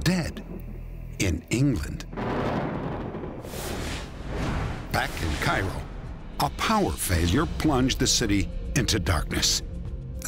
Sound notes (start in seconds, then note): 2.1 thunder